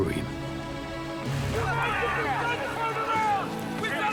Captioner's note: soldiers shouting